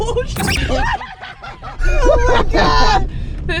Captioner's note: laughing